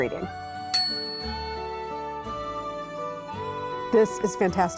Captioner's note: bell dinging